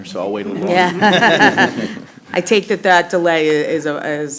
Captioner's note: laughter